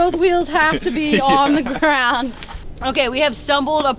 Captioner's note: laughing